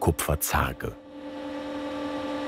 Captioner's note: whirring